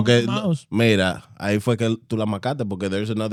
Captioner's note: speaking In Foreign Language